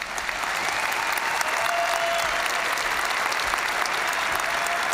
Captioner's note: audience cheering and applauding